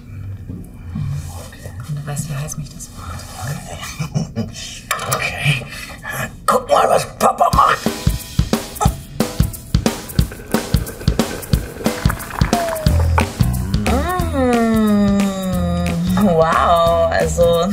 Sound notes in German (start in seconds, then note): 6.3 angestrengt; 9.6 Schwungvolle Musik; 15.5 genüsslich